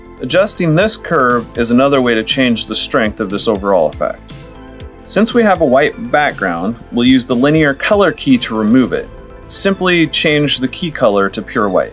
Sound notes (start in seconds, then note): none